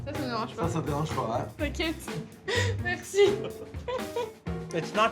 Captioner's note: laughing